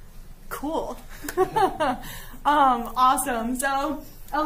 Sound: giggling

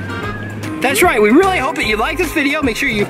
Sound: voiceover

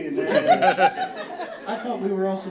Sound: audience laughing

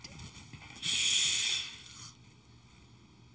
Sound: inhales

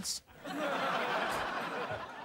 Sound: laughing

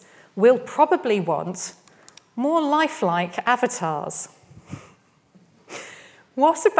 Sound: chuckles

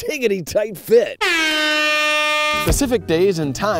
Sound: airhorn

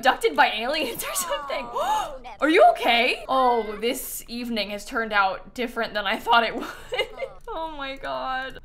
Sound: gasps

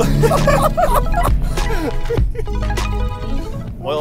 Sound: laughing

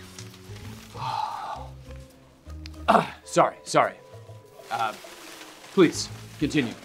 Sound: exhales loudly

